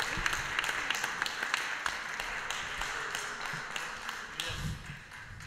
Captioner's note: applause